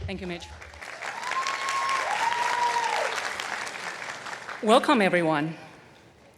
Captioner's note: attendees cheering and applauding